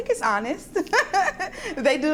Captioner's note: laughter